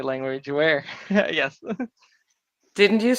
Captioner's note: chuckles